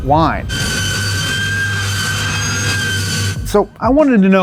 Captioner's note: car whining